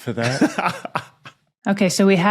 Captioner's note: cackles softly